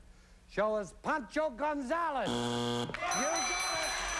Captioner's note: buzzer